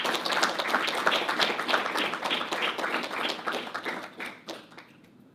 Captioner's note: audience applauding